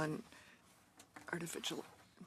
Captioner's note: speaking in French